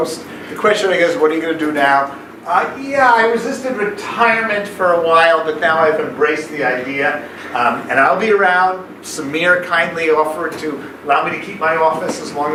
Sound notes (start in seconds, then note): none